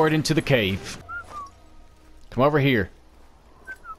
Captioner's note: whistling